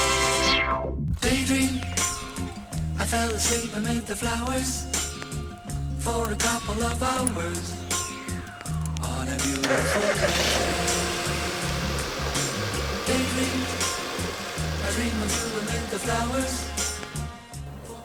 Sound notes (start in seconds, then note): 10.3 sound of engine starting